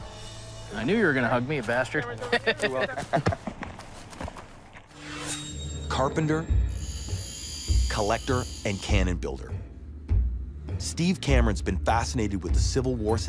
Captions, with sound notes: I knew you were going to hug me, you bastard. (laughs) - You're welcome. (laughs) Carpenter, collector and cannon builder. Steve Cameron's been fascinated with the Civil War